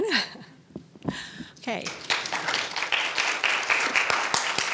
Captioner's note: audience applauds